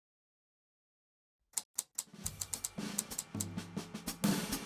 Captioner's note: typewriter clicks